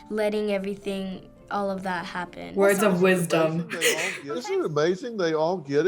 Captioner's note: chuckles